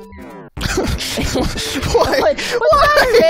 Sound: chuckles; laughs

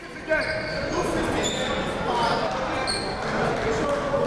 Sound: crowd talking

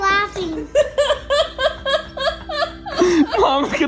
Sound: laughs

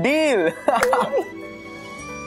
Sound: laughing

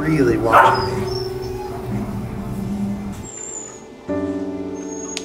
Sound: dogs squeaking

